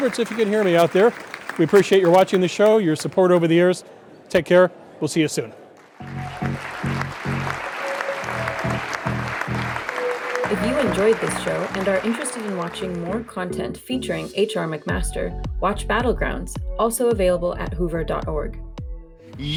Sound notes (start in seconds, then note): 5.7 applause